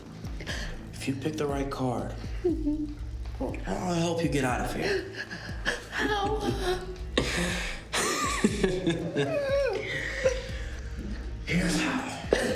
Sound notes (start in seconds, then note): 7.1 Ben laughing; 9.1 Mia crying